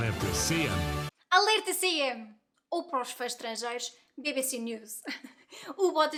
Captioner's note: breaking news in portuguese